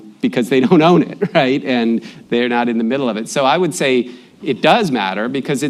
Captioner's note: laughs